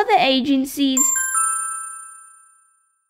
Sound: ding!

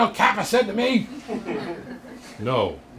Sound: laughter

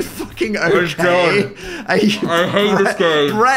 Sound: laughs

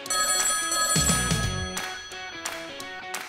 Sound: phone rings

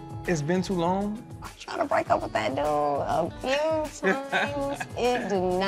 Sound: laughs

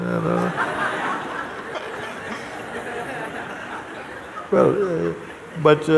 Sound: laughter

